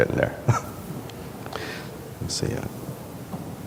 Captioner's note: laughs